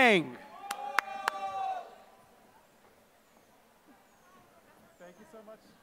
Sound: applause

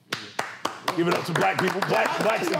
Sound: applause

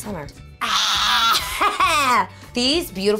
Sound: grunting

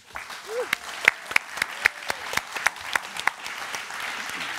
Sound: applause

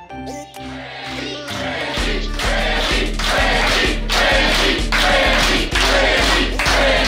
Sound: crowd

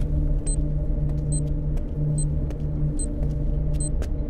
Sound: bomb beep

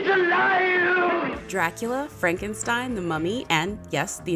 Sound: voiceover

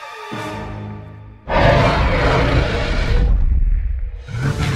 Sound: carnotaurus Growls

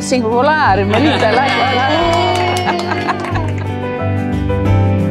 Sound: laughing, cheering; piano playing

